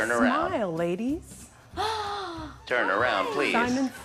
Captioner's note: gasps